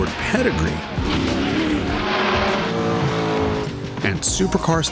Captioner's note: engines buzzing